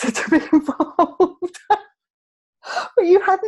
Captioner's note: laughing